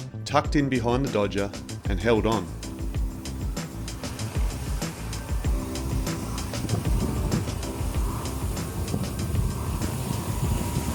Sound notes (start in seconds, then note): 4.0 upbeat music; 6.1 waves splashing